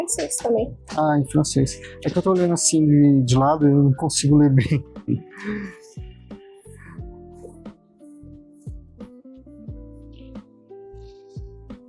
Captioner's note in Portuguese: risadas